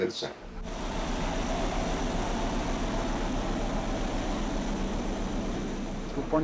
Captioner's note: airplane turbine